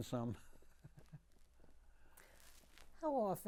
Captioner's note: laughing